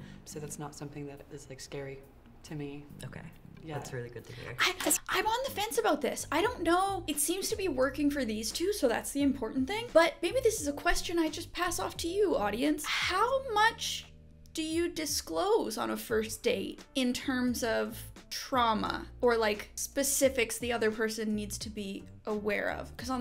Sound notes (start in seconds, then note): none